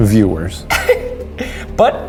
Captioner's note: laughs